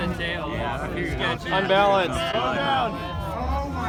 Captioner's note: crowd